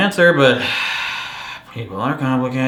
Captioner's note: sighs